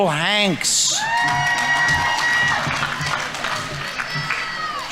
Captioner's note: audience members cheering; audience applauding